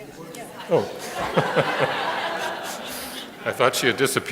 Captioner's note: laughter